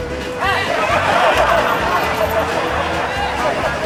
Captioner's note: laughter